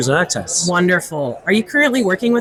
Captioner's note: crowd chattering